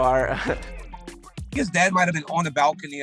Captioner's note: chuckles